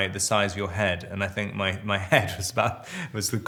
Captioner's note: Robert chuckles